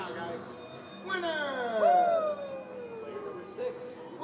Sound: bell rings

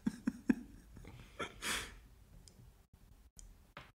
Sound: laughs

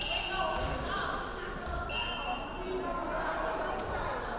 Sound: referee whistling

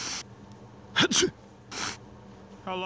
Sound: sniiiffff!!; sneeze!

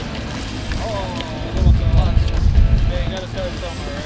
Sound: fisherman exclaims

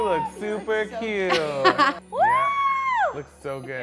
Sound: laughs

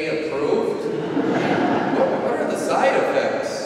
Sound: laughing

